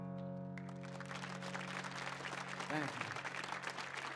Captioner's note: audience applauds